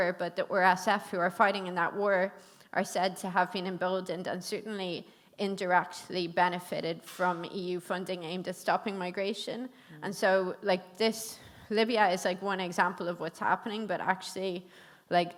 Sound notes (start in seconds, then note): none